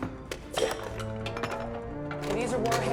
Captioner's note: lid clatters